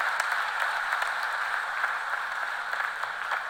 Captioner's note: cheers and applause